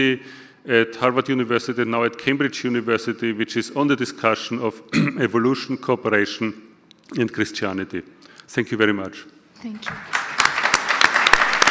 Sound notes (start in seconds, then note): 9.9 audience applause